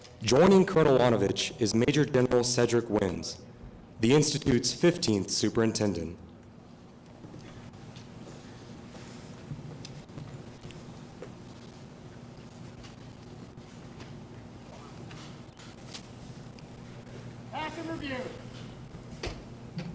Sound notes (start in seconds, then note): 6.4 silence